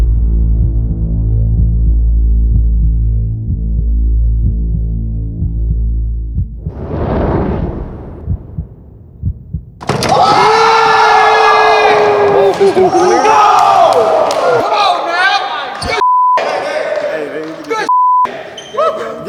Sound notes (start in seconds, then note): 9.8 all cheering; 16.0 beep; 17.9 beep